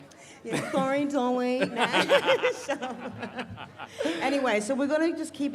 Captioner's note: laughs